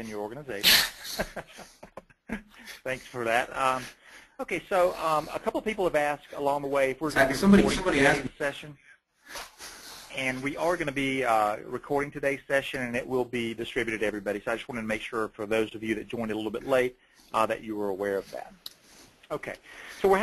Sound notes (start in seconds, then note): 0.8 laughter